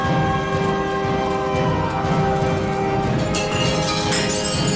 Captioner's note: howls